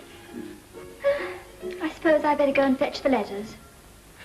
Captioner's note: sigh